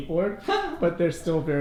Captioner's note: giggles